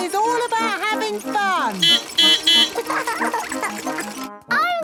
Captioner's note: beeping; laughing